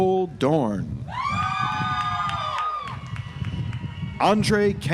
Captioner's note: audience applauds